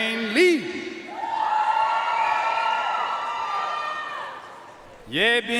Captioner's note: audience cheering and applauding